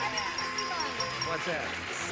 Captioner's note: beeping